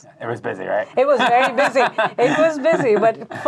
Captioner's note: laughing